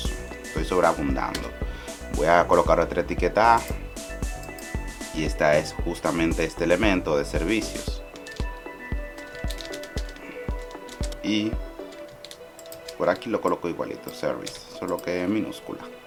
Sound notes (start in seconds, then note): 9.2 typing